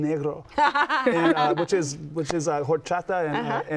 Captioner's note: laughs